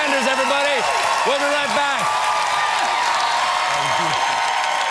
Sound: cheers and applause

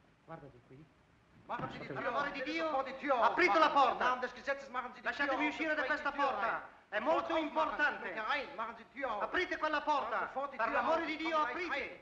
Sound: voices shouting in foreign language

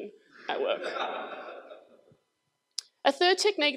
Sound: crowd laughs

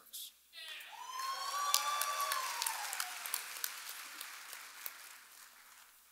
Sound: audience applauding and cheering

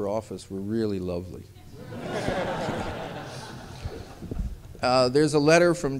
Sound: laughter

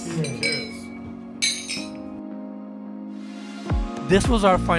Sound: glasses clinking

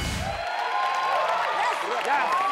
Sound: audience cheering

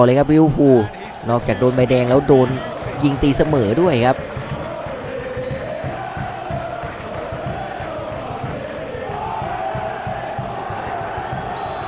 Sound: applause; applause

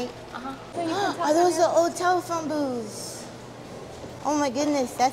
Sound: gasps

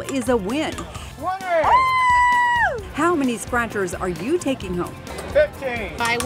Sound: sound of cheering

